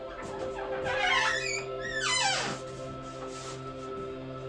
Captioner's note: door squeaks